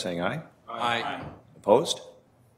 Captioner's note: multiple voices